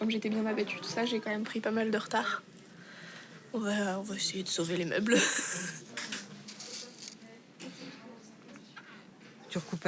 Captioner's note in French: rires